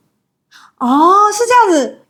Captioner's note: sucks in breath